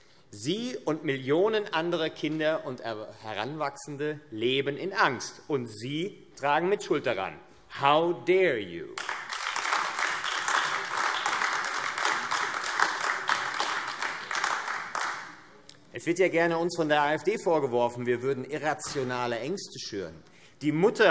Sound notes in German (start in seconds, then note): 8.9 Beifall AfD